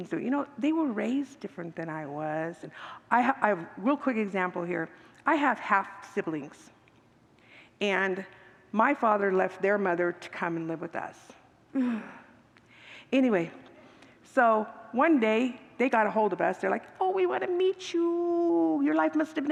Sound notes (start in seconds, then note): 11.7 sigh